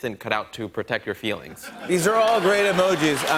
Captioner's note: laughter and applause